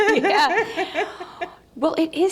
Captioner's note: laughing